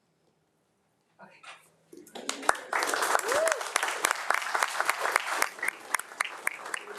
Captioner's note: crowd applauding